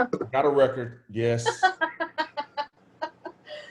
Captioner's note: laughs